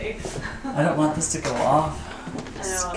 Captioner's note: laughing